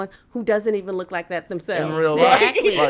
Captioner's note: laughs